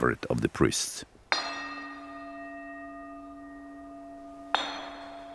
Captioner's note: ringing bells